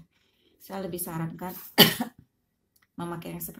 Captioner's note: sorry i'm coughing